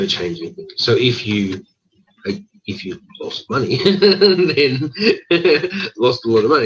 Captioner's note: laughs